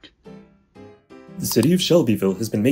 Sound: click

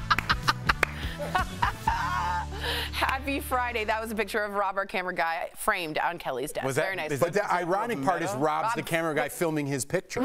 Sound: laughter

